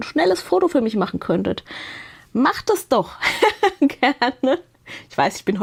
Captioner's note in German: gelächter